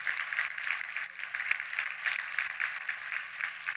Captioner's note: applause